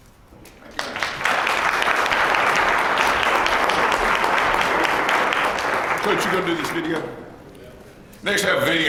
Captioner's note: applause